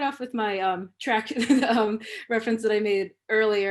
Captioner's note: laughter